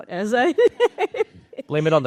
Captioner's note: laughter